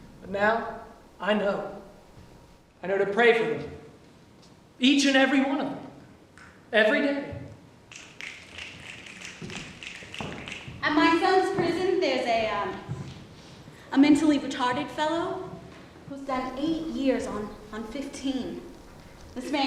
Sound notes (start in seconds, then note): 8.1 snapping